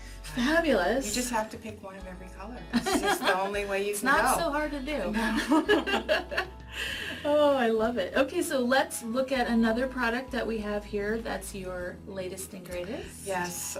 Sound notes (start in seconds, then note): 6.3 laughs